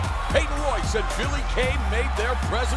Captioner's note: crowd cheering